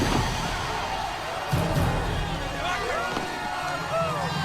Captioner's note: crowd cheers